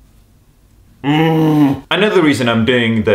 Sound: harrowing grunt

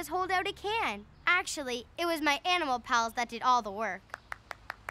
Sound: applause

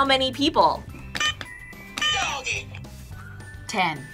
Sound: buzzer rings

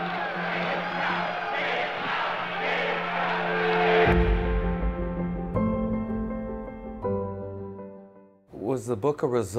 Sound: sounds of protesting; piano Music

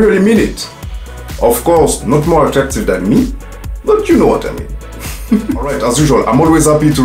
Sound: giggles

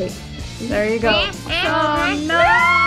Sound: alien noises

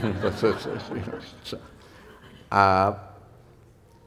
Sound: laughter

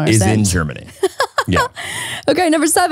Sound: laughing

